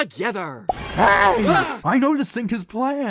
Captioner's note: pb & oj scream